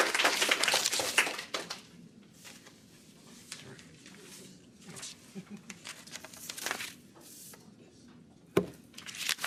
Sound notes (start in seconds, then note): 0.0 applause